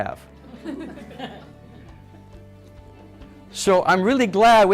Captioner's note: audience laughs